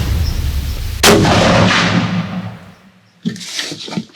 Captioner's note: gunshot